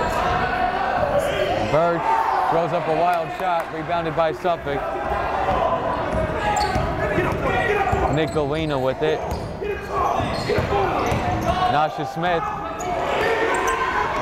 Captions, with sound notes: (yelling) Burch throws up a wild shot, rebounded by Suffolk. (yelling) Nick Gallina with it. (yelling) Nasha Smith, Tigers have it,